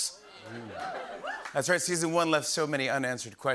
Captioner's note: cheering and applause